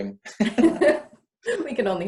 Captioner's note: both laugh